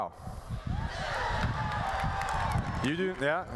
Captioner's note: applause